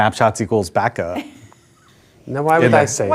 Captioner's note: laughing